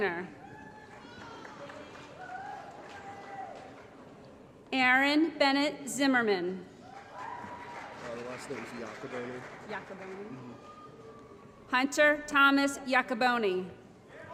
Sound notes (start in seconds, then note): 0.4 applause & Cheering; 6.8 applause & Cheering